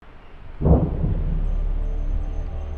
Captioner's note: explosions heard in the background